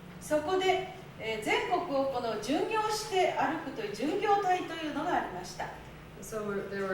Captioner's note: speaking Japanes